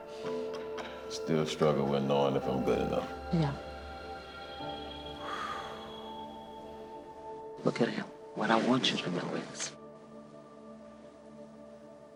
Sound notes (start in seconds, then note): 5.2 exhales deeply